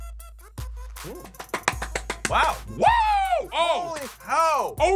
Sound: claps and screams

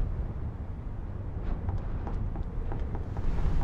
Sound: wind rustling

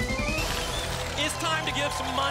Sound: applause

